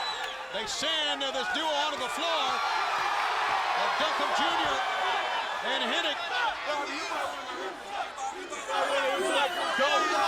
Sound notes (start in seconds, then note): 6.8 audience chanting